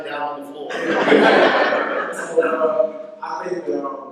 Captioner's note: laughter